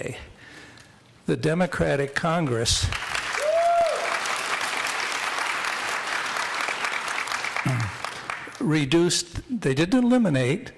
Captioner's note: applause